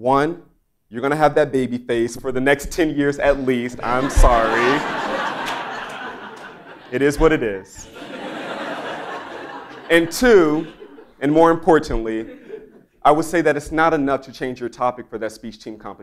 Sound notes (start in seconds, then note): 3.4 laugh